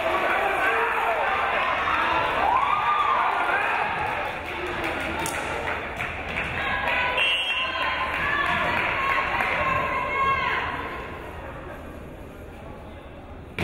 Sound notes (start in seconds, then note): 1.5 crowd cheering; 7.1 whistle blows